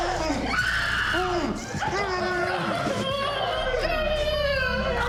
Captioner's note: victims groaning; dramatic music